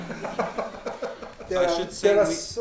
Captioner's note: audience laughing; Mayor Oh laughing